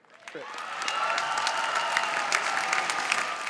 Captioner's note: applause